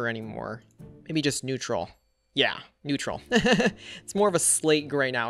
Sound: laughs

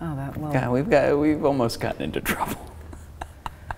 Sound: laughing

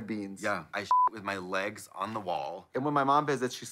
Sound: beep

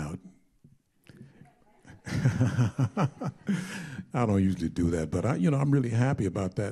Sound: chuckling

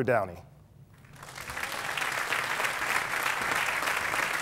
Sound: applause

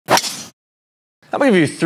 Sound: golf ball whooshes

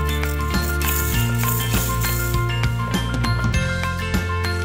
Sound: metal sliding

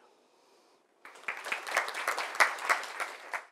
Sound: applause

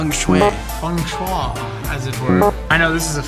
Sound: buzzer buzzing

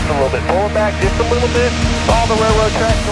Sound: man Over Radio

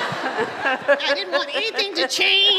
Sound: laughter

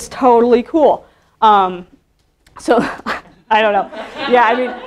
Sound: laughing

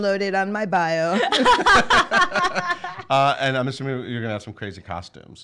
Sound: laughing

